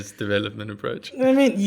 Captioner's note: laugh